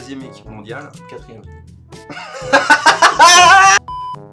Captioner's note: both crack up at the goof